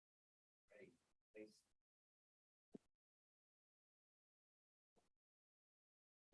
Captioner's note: speaking faintly